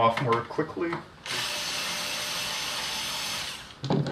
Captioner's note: whirrr